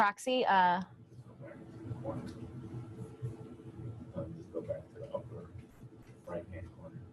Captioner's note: audience member speaks from a distance